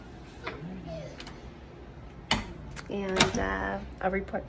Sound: door closes

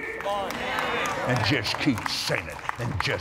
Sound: applause

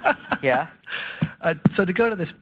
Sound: laughs

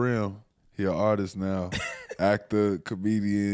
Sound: Steelo chuckles

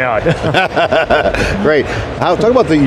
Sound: group laughter

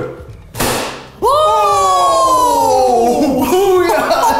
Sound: screams

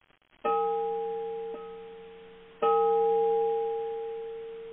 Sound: gong rings three times

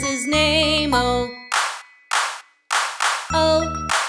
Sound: clap

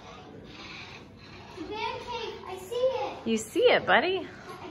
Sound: sawing noise

